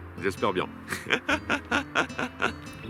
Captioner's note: laughs